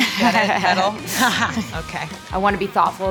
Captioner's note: laughing